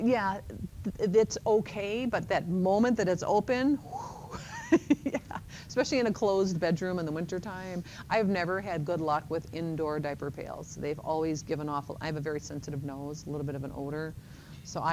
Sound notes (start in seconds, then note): 3.5 sighs; 4.0 laughs